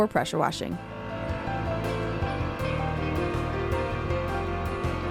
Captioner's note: sprayer buzzing